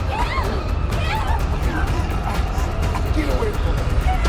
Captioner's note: girl screams